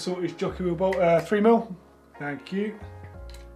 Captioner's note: snaps